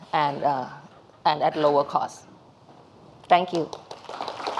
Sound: applause

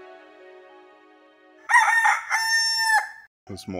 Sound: rooster Crowing

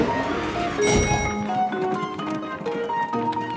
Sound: dinging

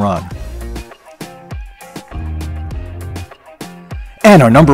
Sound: mid-tempo instrumental music; crowd drones

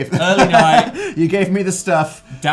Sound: laughing

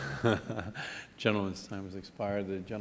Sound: laughter

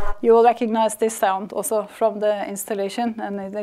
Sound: repetitious sound over water sounds

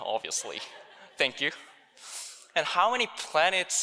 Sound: audience laughing

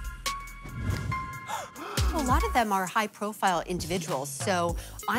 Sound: gasping

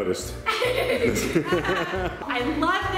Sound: laughing

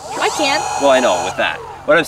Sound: spinning noise

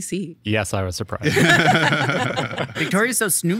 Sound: all laughing

